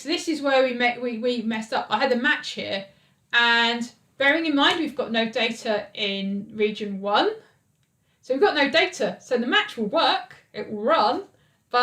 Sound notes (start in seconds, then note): none